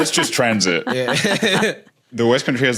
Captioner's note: laugh